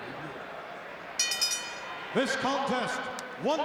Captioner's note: bell rings